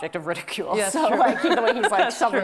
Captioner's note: both laughing